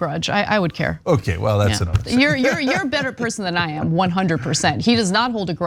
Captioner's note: laugh